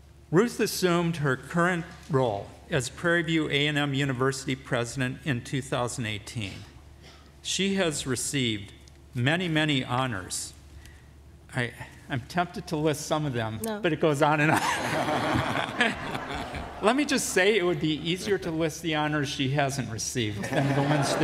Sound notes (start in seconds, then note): 14.4 laughter